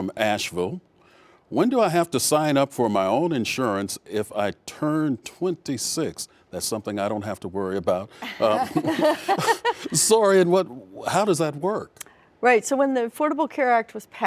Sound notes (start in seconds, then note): 9.9 laughs